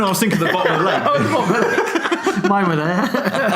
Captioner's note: laughing